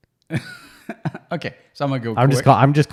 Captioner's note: laughs